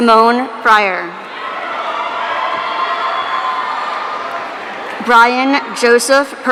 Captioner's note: audience cheering